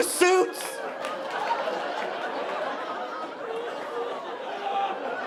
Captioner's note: audience laughing